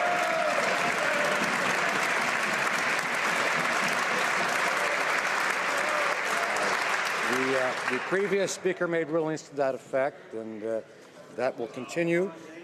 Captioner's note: some Applause